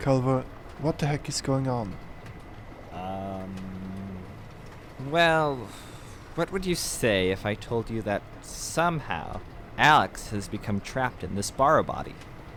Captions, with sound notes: Culver, what the heck is going on? [Henry hums and haws] Well what would you say if I told you that somehow Alex has become trapped in in this bahro body.